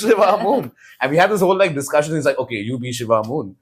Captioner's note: laughs